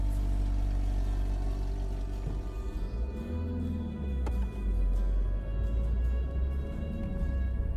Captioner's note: car drives away